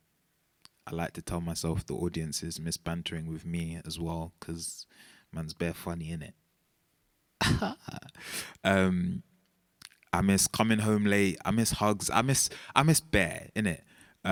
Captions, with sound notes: I like to tell myself the audiences miss bantering with me as well cause man's bare funny it. (man Laughing) I miss coming home late. I miss hugs. I miss, I miss bare init,